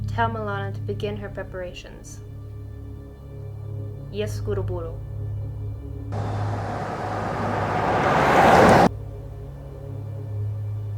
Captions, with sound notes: Tell Milana to begin her preparations. [speaks Russian]